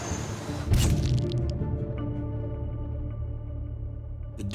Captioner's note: camera shutter clicks